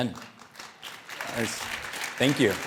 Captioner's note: audience applauding